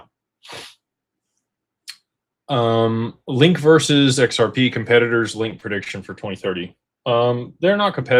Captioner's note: snorts